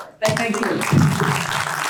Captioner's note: applause